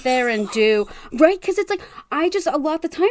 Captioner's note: gasp